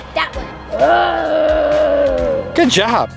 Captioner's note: Frankenstein roars